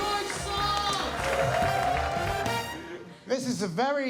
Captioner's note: crowd cheering